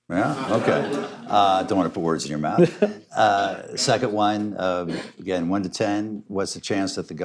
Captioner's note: laughter